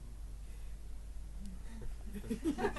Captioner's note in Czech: smích